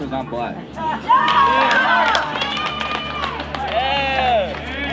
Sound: group applauding

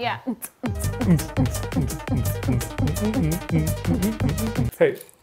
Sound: both vocalize; upbeat music

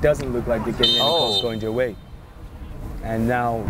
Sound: whistle blows

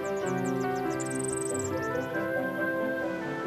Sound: chirps

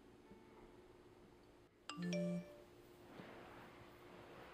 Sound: phone alert

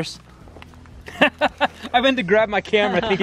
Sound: laughs

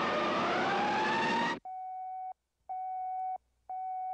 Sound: beeping

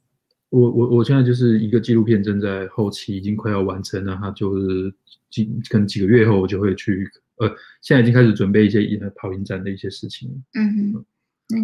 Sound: speaks mandarin

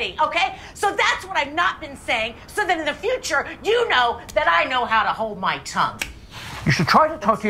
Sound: slap

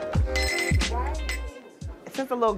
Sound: bells chime

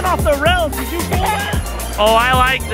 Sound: laughs

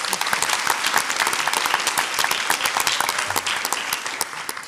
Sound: audience applauds

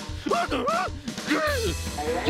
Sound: drumming starts again; yelping

